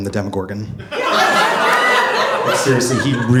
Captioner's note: audience laughing